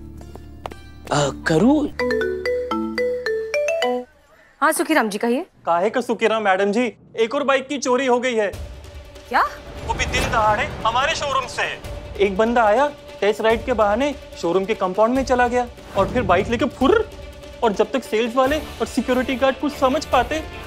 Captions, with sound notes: Karu? [phone ringing] - Yes, Mr. Sukhiram? - Sukhiram is finished, madam. - One more bike has been stolen. - What? In broad daylight, from the showroom. A guy came for a test ride, went to the showroom compound and ran away with the bike. Before the sales and security people could know,